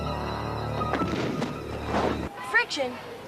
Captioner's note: loud thud